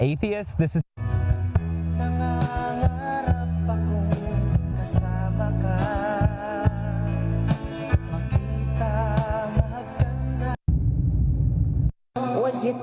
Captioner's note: foreign language